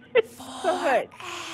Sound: laughing

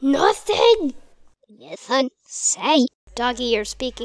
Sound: speaking Backwards

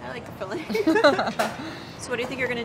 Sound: laughing

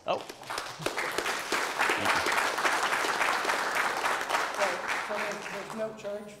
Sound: applause

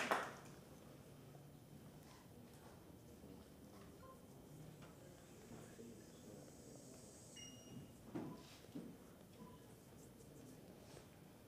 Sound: applause

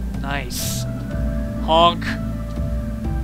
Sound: honk!

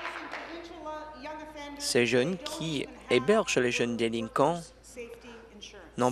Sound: applause

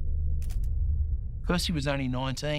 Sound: camera shutter clicking

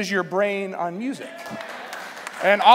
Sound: applause

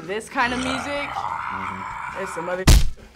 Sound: growls

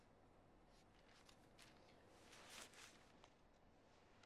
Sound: pages turning

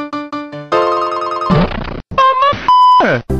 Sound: bump sfx

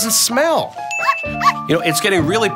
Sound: dog barks

